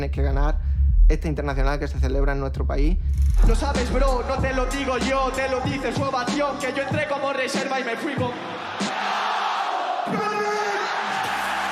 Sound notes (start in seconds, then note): 7.4 crowd